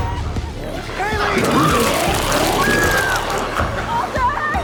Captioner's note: Chalee screams